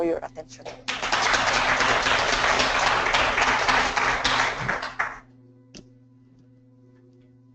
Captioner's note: applause